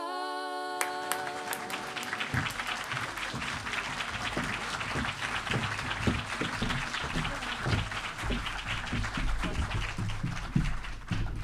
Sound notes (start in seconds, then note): 0.5 audience clapping; 4.9 steps booming